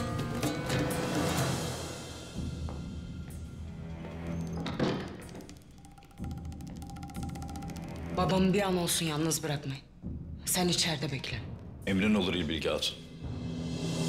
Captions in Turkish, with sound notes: (Kapı kapanma sesi) Babamı bir an olsun yalnız bırakmayın. -Sen içeride bekle. -Emrin olur İlbilge Hatun.